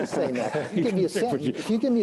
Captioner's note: laughs